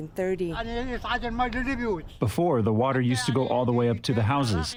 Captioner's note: through translator